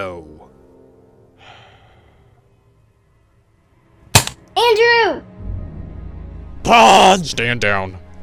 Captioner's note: sigh